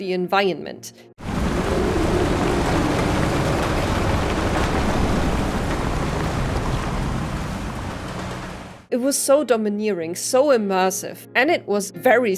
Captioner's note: sounds of strong winds and alien presence